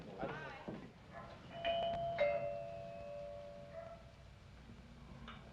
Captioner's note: doorbell